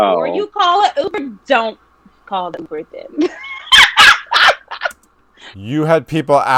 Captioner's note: laughing